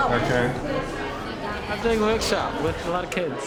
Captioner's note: people chattering